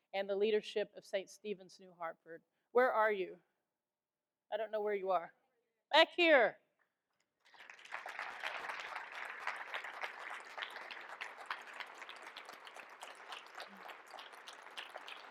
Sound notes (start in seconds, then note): 7.4 all applaud